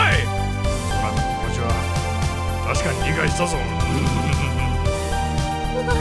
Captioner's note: lecherous chuckle